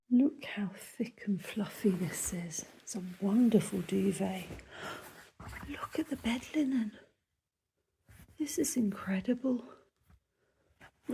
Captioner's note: gasp